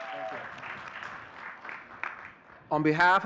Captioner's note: audience cheering and clapping